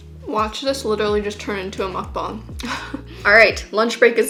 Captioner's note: giggles